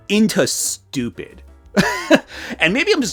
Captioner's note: laughs